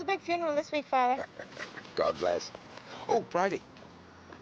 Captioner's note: chuckles